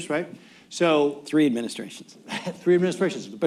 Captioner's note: laughs